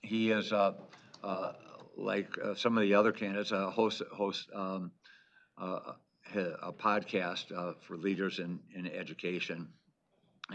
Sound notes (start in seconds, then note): none